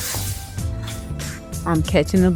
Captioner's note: bus brake hisses